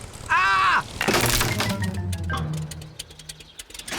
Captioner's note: crunching